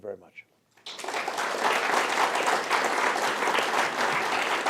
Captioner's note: applause